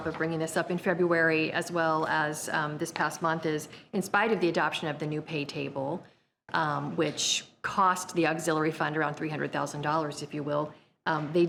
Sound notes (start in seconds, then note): none